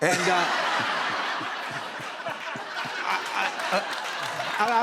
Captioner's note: laughter